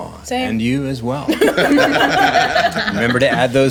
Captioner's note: laughing